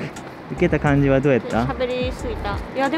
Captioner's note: laughter